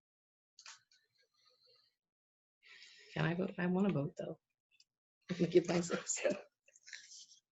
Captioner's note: one half minute pause in speech